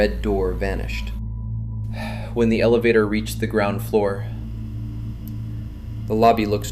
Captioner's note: relieved sigh